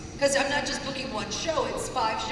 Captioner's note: none